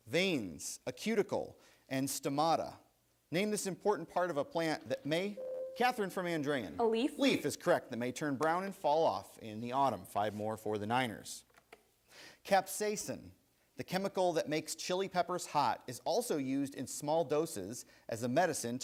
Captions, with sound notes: Veins, a cuticle and stomata. Name this important part of a plant may. (buzzer rings) Kathryn from Andrean. >> A leaf? >> Leaf is correct. >> They may turn brown and fall off in the autumn. Five more for the Niners. Capsaicin, the chemical that makes chili peppers hot is also used in small doses as a medicine